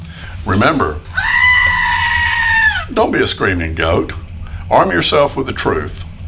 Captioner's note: scream